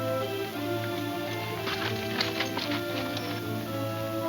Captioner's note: spurs jingling